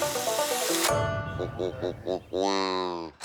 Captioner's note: quacking